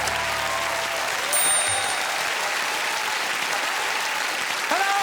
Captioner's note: audience applauding; typewriter keys clacking; audience applauding; typewriter dinging